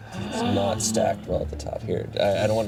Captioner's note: all gasping